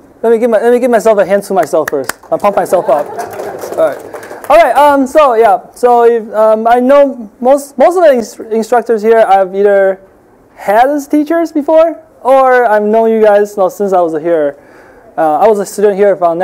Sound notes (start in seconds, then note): 1.8 clapping; 2.4 audience laughing